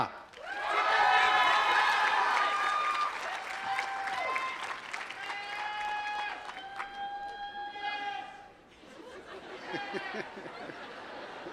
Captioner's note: applause